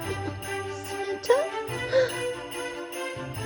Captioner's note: gasps